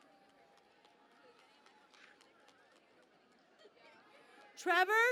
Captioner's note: cheering and Applause